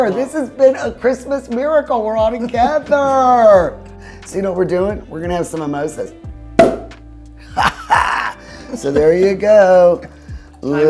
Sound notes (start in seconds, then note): 6.6 cork pops; 7.5 laughs